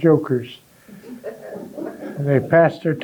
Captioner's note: audience laughing